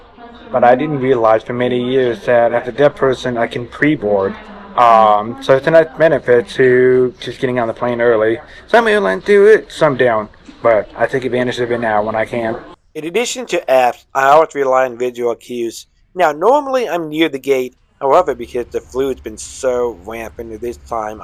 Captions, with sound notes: I didn't realize for many years that as a deaf person, I can pre-board! Um so, it's a nice benefit to just getting on the plane early. Some airlines do it, some don't, but I take advantage of it now, when I can! (Voiceover) In addition to apps, I always rely on visual cues, Now, normally I'm near the gate. However, because the flu has been so rampant at this time.